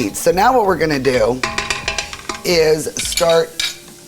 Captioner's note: spoon clattering